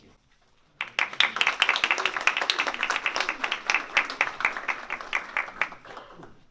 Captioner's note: applause